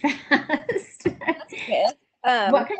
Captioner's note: laughs